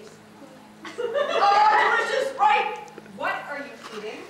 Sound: audience laughter

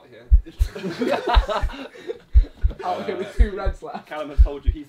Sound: heart beating; all laughing

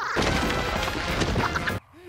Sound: laugh

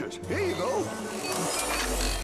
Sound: machine Noises

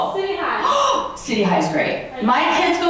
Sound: gasps

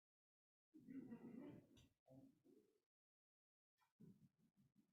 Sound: group laughs

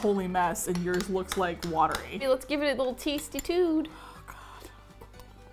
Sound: sighs

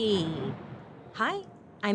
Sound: thunder rumbles

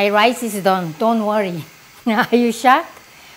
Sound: laughs

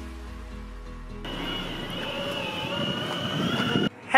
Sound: Electric hum of Boosted Board

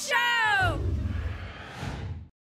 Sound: whoosh

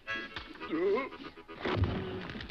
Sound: Dunderklumpen yelps; body thuds

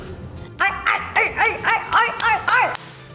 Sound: barking

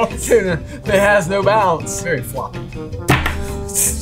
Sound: laughs

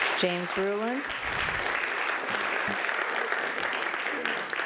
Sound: applause

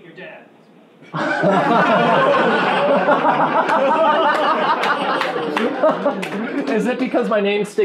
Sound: laughing

